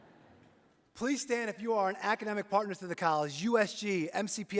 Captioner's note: laughter